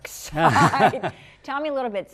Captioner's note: laughter